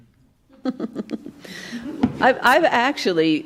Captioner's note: laughs